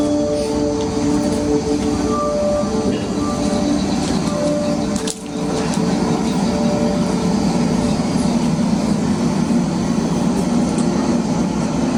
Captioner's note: background: river water flowing